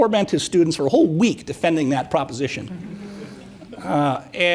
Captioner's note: audience murmuring